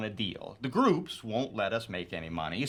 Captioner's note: none